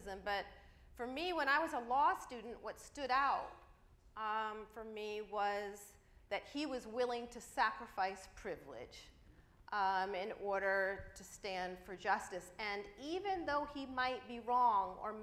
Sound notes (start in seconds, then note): none